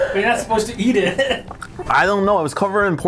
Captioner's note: man laughs